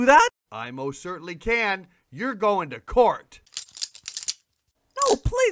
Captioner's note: handcuffs locking